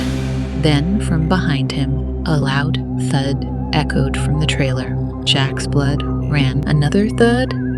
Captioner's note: thud